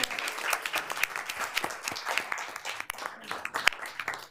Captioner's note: members applauding